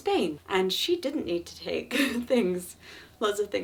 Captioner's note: chuckling